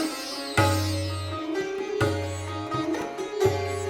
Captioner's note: none